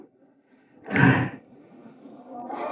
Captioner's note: sighs